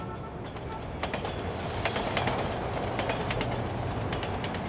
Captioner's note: train rattling